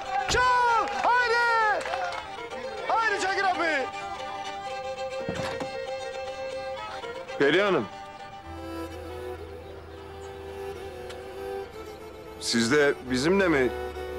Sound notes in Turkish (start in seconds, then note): 0.1 Kemençe Çalıyor; 4.1 Kemençe Çalıyor; 5.1 Kapı Açılıyor; 5.7 Kemençe Çalıyor